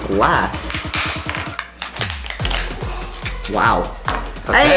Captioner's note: plastic crunching